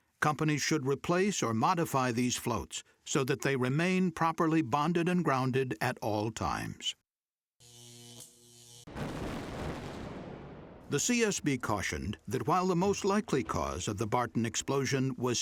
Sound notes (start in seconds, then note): 8.9 sound of explosion